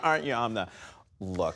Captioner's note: laughter